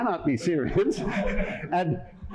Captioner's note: laughter